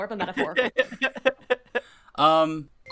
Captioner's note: laughter